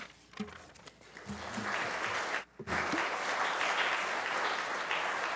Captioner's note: applause